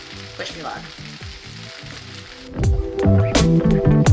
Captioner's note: pan sizzling; jazzy music